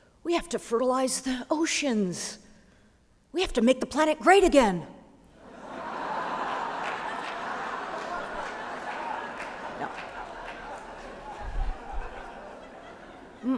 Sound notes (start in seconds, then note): 5.5 laughter